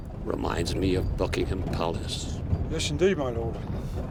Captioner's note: none